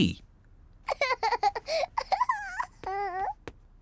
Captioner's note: giggles